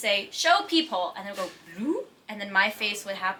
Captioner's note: none